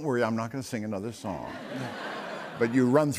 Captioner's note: laughter